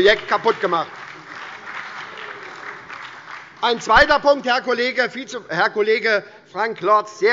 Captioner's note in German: Beifall bei der SPD sowie bei Abgeordneten der LINKEN und der FDP